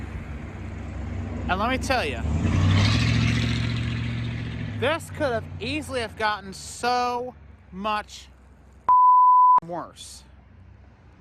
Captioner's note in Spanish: bip